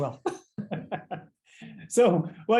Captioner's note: laughter